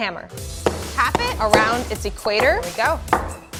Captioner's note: bashes